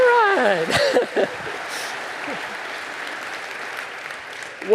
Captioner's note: chuckles